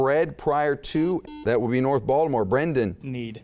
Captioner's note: buzzing